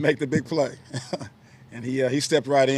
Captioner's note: laughing